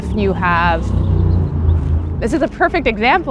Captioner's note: car noise